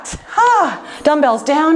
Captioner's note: sighs